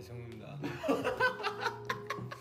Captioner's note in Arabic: يضحك